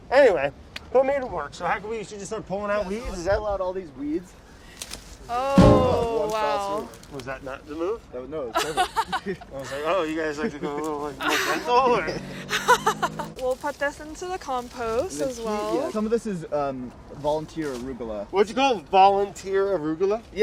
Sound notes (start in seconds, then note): 12.1 laughing